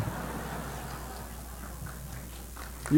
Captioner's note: applause; laughter